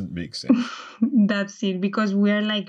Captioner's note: laughter